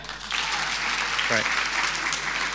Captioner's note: audience applauding